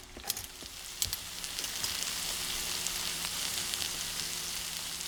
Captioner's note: vegetables sizzle